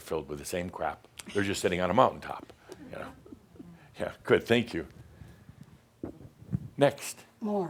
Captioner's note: she giggles